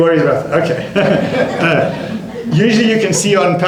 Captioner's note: laughter